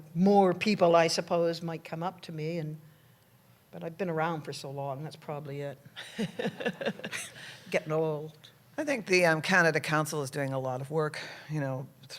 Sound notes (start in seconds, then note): 6.0 laughter